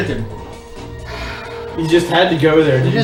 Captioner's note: sighs